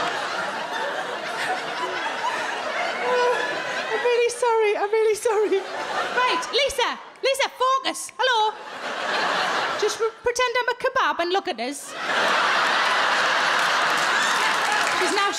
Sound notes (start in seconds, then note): 8.4 crowd laugh; 11.8 crowd laugh